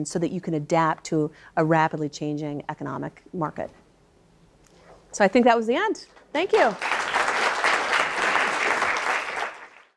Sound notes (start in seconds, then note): 6.5 audience applauds